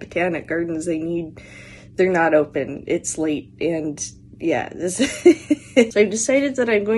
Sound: laughter

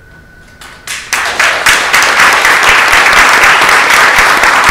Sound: audience applauds

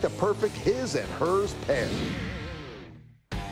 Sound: swish

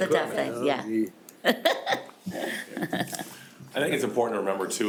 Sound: person laughing

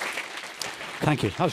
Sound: audience applauding

